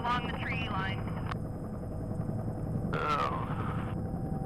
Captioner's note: helicopter blades spinning; helicopter blades whirling